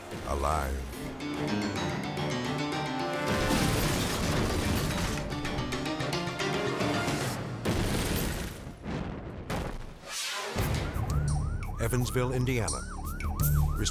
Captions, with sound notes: Alive. (upbeat dramatic music) (car crashing) (air whooshes) (siren blaring) Evansville, Indiana. (tense rhythmic music)